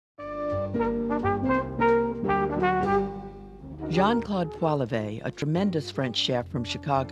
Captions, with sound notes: (bouncy jazz music) - [Voiceover] Jean Claude Poilevey, a tremendous french chef from Chicago,